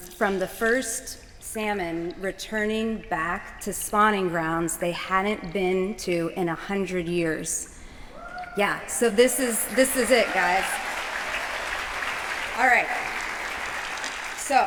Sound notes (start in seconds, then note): 9.7 cheers; 12.6 applause